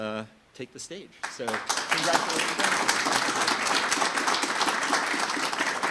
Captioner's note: audience applauding